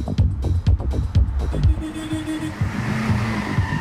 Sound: horn honking

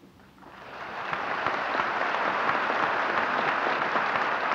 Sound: applause

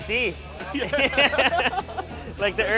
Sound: laughing

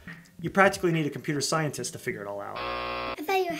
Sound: BUZZER sound

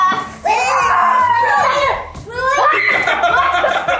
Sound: screaming; girl screaming

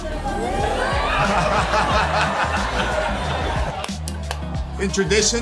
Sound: crowd cheering; laughs

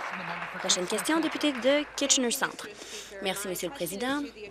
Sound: applause

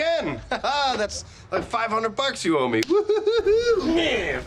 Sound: laughs

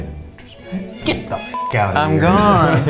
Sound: beep; men laugh

